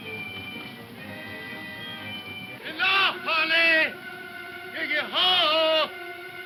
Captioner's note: shouting in foreign language